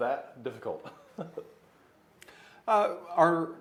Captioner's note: laughing